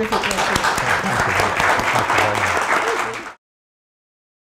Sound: applause

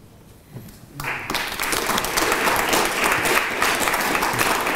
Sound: applause

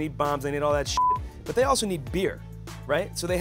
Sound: beeping

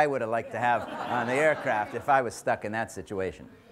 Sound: audience laughs

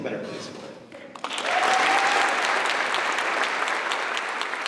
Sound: applause

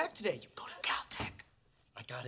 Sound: whispers

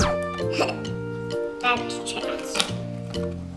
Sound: laughs

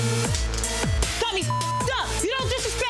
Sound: beeps

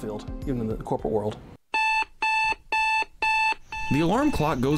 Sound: alarm clock beeping

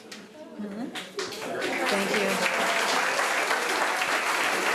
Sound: applause

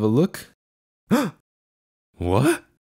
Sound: gasp

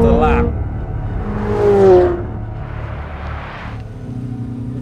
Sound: engine roaring

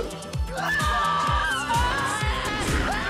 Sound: both screaming

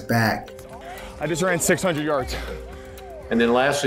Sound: pants

